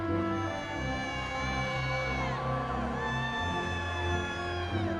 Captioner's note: audience cheering